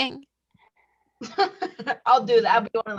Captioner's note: laughs